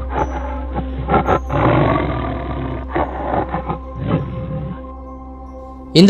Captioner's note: roar of tiger